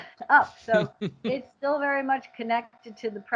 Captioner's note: chuckles